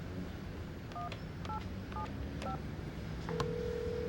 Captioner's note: ringing